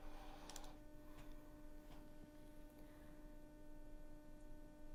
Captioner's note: keyboard clicking